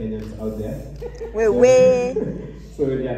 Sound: laughter

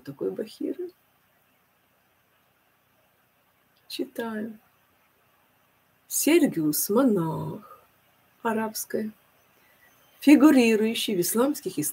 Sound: Arabic

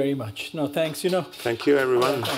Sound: applause

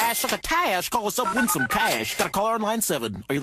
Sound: ring ring

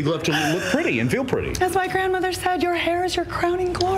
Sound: laughter

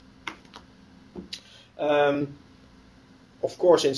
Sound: pause

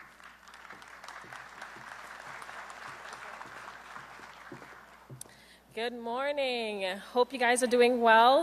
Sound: applause

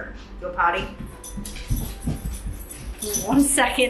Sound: collar shaking

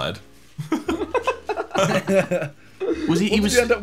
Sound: everyone laughing

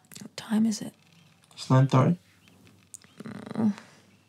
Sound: Annette groans

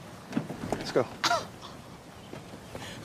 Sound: laughing

